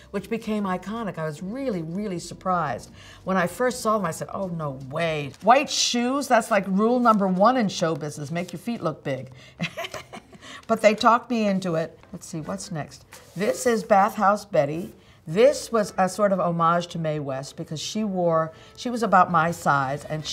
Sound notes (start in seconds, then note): 9.6 laughing